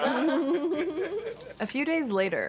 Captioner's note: laughing